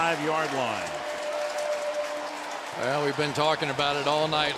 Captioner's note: pa announcement